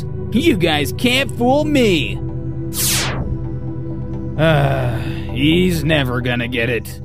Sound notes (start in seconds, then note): 4.4 sigh